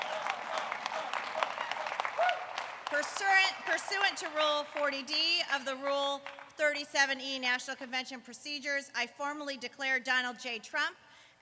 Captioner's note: applause